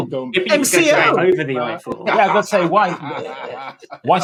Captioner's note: laughter